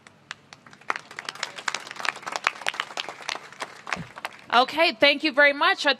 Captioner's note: applause